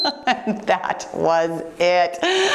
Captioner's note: timer beeps; laughing